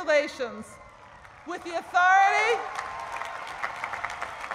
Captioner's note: applause